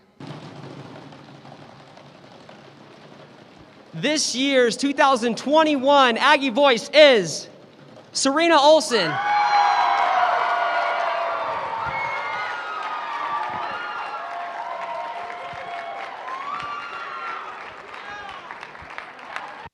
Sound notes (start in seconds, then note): 0.2 drumroll; 9.3 cheering